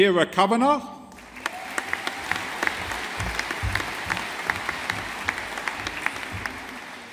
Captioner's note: audience applauding